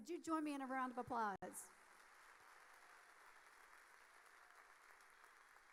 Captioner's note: audience applauding